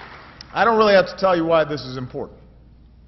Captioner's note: applause